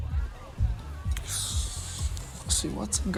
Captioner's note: Lukas sighs